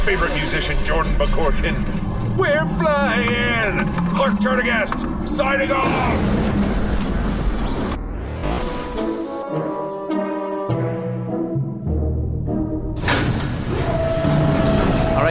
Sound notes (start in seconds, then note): 2.7 sings; 5.4 speaking normally; 14.0 sounds of ship launching into hyperdrive, morphs back into intermission music